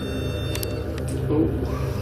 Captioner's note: beeping